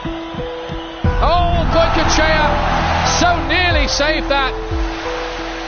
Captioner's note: fans screaming